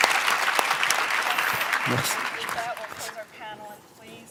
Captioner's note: applause